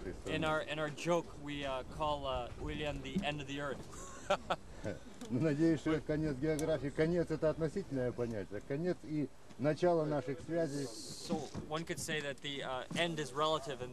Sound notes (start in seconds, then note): 3.8 laughs; 6.1 russian speech